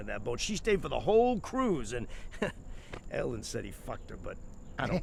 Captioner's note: scoffs